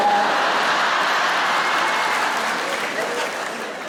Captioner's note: audience laughs